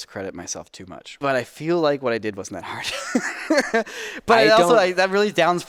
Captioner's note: laughs